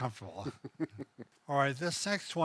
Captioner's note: laughing